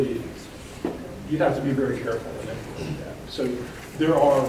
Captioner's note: speaking faintly